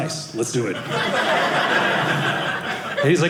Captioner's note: audience laughing